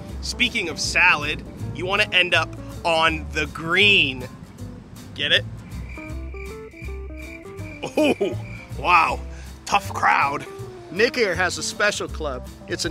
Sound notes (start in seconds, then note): 5.4 crickets